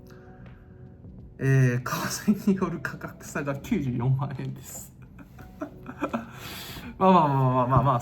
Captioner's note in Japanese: 笑い